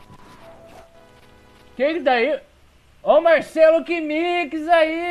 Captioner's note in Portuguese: surpreso